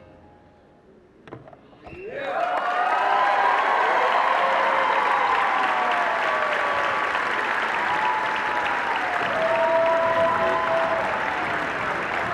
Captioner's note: cheering